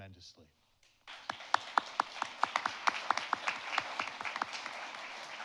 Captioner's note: audience applauding